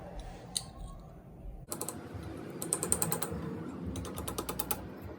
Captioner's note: tapping noise